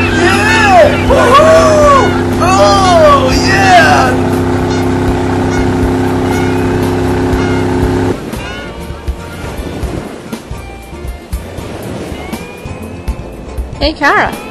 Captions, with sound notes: YEAH! WOO-HOO! OH YEAH! [ Vrooming Continues ] [ Geese Cawing ] HEY CARA.